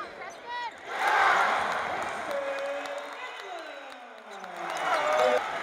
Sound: crowd cheering

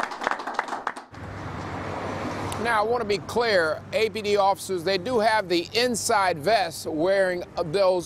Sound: applause

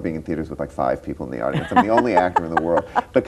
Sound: laughs

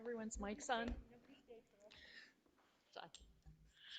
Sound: group chattering

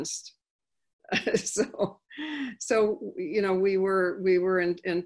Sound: laughing

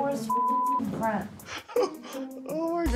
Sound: laughs

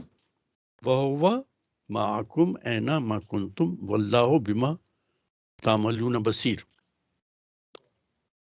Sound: recites arabic

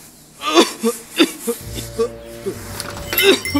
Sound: cough

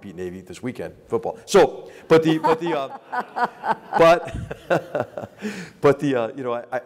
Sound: laugh

